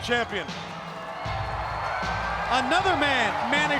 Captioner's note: crowd cheering